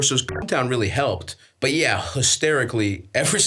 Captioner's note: beeps